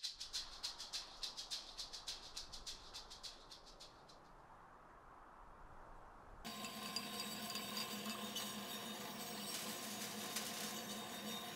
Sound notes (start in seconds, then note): 6.4 glass clinking; 9.2 powders rustling